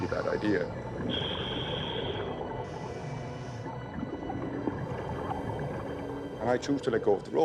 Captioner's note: breathing through hose